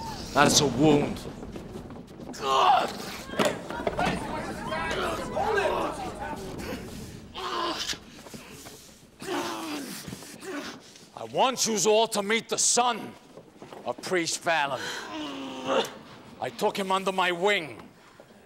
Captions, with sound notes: That's a wound! (SHOUTS) (GROANING) I want youse aII to meet the son of Priest VaIIon. I took him under my wing,